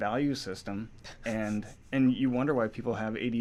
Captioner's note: laughs